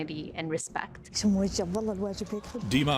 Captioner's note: speaking Arabic